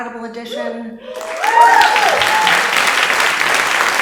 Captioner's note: audience applauding